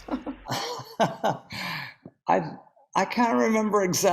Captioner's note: laughing